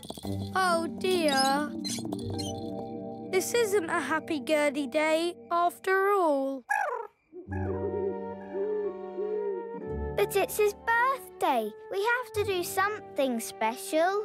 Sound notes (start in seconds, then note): 6.6 chirping; 7.3 owl hoots